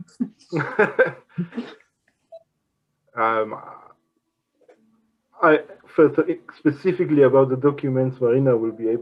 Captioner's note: laughs